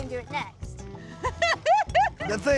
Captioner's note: laughing